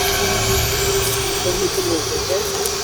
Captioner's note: hissing